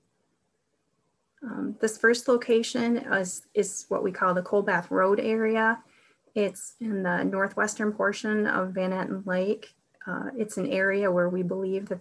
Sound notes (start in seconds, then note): none